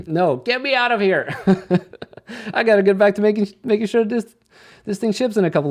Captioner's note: chuckles